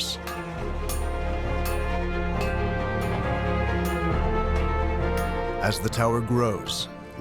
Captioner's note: hammers clanging